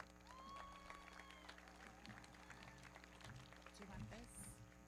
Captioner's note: everybody clapping; audience cheering